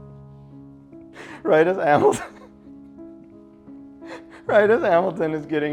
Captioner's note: sad music; laughs